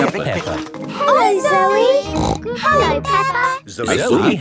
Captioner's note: snort